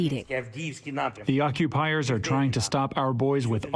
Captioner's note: through translator